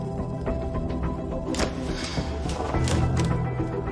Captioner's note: tearing, snapping